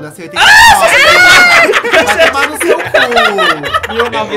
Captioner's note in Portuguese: risos